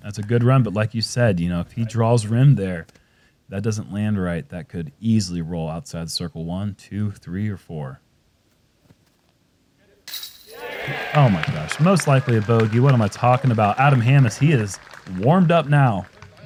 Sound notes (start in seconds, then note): 10.4 applause